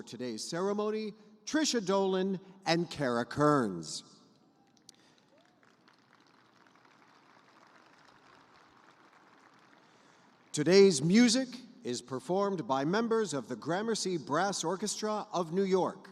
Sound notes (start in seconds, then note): 5.3 cheers; 8.1 applause